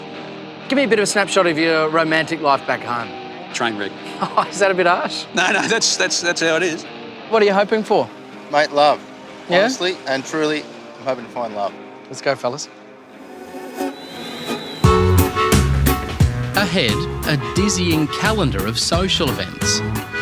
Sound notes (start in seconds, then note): 4.0 laughs; 12.7 jaunty music